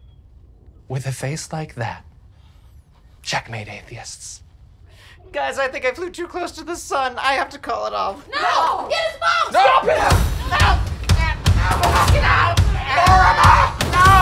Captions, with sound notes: - With a face like that? Checkmate atheists. - Guys I think I flew too close to the sun. I have to call it off. (group screaming no) - Get his phone! - Stop him! (group screaming)